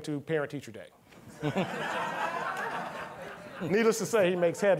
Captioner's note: all laughing